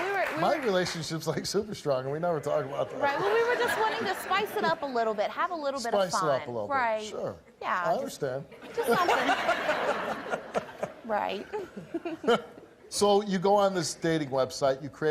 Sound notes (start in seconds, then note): 8.6 laughs